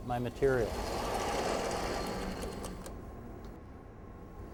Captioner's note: saw moving on bars